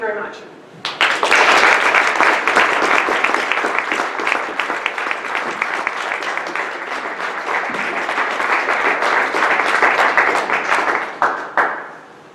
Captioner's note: audience clapping